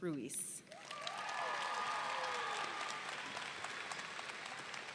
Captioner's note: audience cheering